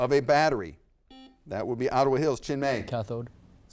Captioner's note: buzzer beeps